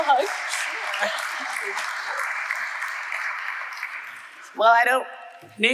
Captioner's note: audience applauding